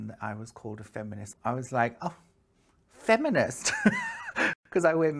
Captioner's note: laughs